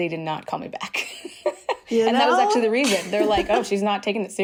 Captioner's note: laughter